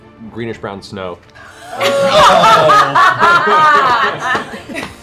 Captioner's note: laughter